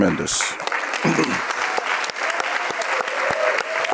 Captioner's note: audience cheering